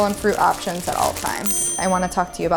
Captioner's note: ding